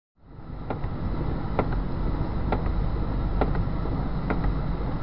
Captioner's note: windshield wipers thudding